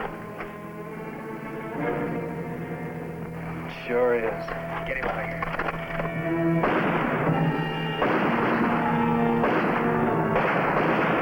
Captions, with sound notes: - It sure is. Get him out of here. (gunfire blasting) (suspenseful music)